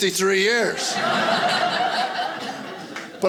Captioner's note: audience laughing